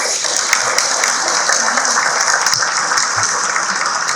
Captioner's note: audience clapping